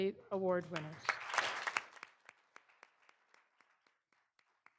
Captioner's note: all applauding